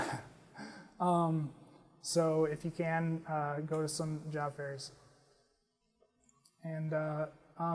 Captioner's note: laugh